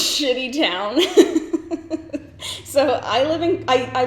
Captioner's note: laughs